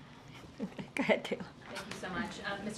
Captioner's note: laughs